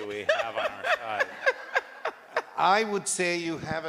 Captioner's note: laughter